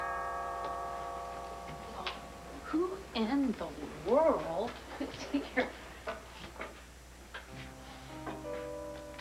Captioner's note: doorbell rings